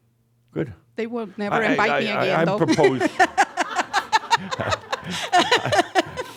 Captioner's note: she laughs